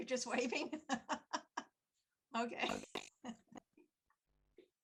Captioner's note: laughing